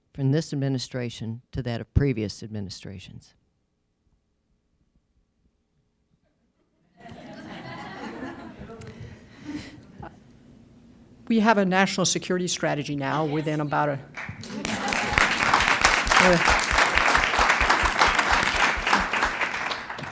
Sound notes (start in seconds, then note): 4.7 laughter; 14.1 applause